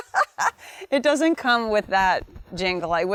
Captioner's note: laughs